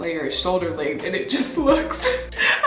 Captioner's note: laughs